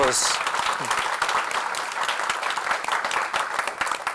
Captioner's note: applause